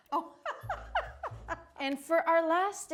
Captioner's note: laughs